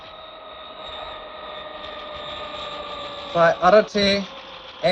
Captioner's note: plane whirring